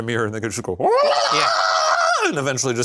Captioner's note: Shane squeals